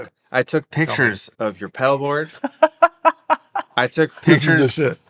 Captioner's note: chuckling